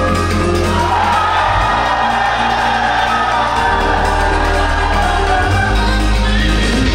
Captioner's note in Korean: 歡呼